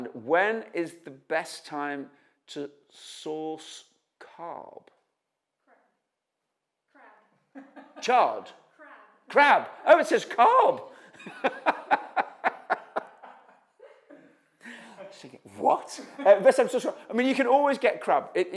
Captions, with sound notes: "When is the best time to source carb?" -Crab. [chuckles] -Chad? -Crab. -Crab. Oh, it says carb. [laughter] -I was thinking, "What." You can always get crab.